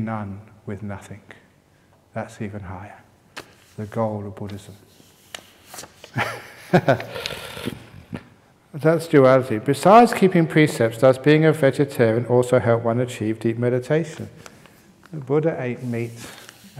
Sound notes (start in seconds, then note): 6.1 chuckles